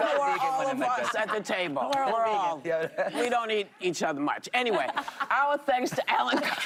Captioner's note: laughter